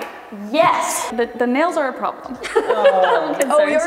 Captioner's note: laughing